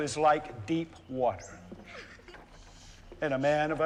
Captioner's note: giggling